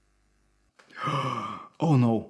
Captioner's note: gasping